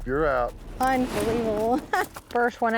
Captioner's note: laughs